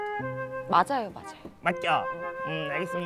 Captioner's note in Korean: 사르륵